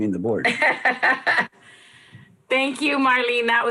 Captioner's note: laughs